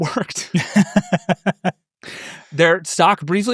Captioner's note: laughs